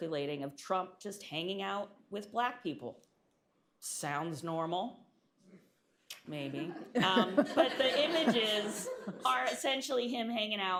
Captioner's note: laughter